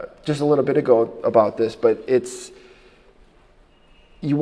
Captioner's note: none